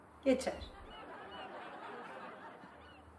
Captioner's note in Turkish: Gülme efekti